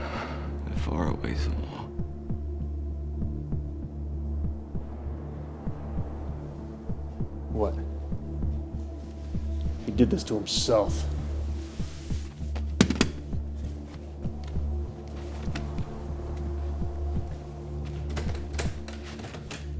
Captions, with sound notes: that far outweighs them all. (tense music) - What? He did this to himself. (gun clattering) (tense music)